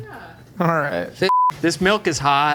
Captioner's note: tone beeps